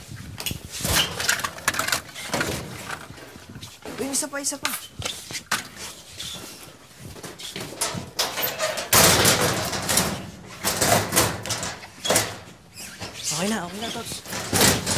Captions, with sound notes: The other one. [door closes] [lock clanking] It's good. It's good.